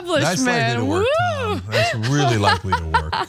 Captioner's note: laugh